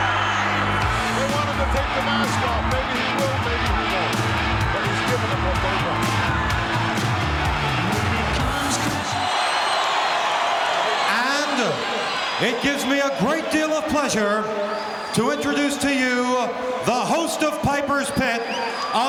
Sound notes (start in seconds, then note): 7.8 audience cheering; 7.8 upbeat rock music